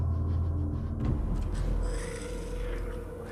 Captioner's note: growling